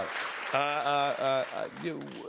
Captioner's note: applause